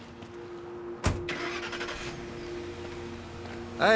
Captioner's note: truck starts